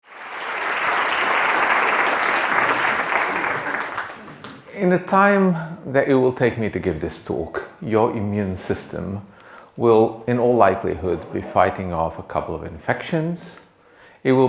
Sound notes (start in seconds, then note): 0.0 attendees applauding